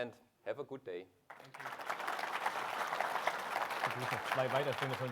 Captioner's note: audience applauding